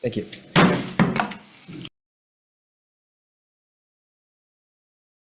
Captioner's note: gavel clanking